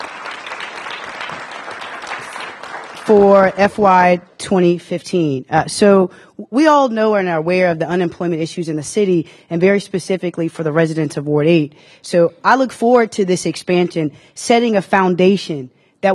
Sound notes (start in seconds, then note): 3.2 applause